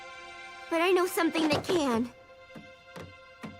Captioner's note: none